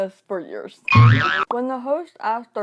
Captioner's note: confused sound